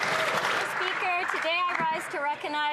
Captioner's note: some Applause